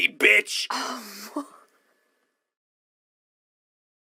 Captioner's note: laughs in a shocked but excited kind of way